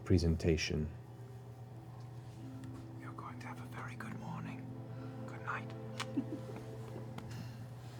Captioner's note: whispers